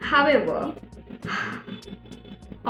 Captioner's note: sighs